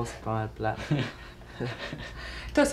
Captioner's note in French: rires